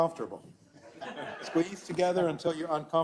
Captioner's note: laugh